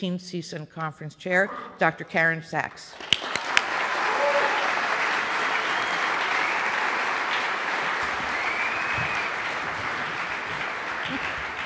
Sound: cheers and Applause

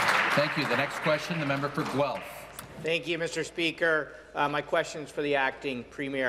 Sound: applause

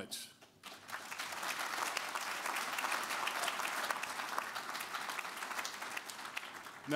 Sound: applause

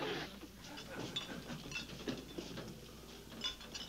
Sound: trolley rattling

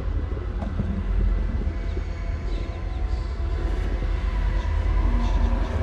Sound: ghostly whispers

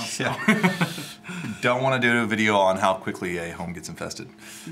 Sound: laughs

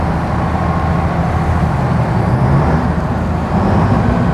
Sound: boat roars

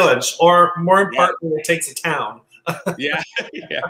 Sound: laughs

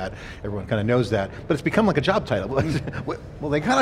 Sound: laughs

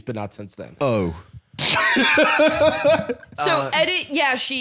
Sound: laughing

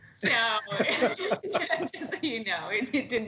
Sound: laughter

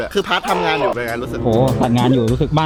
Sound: pat

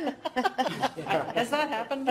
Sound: laughter

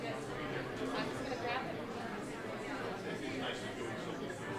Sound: people chattering

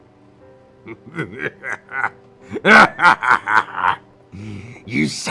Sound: laughs evilly

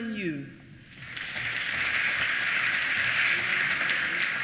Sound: applause

